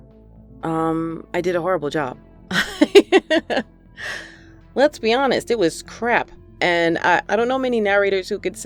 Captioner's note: laughter